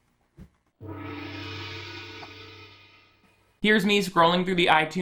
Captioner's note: gong clangs